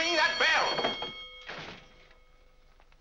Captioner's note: ringing stops